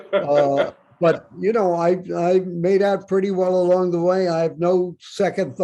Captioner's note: Bob laughs